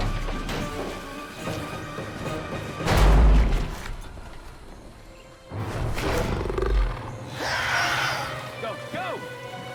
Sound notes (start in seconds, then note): 2.9 drum bangs; 7.3 creature screeches